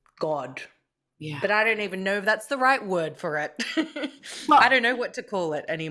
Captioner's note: laughs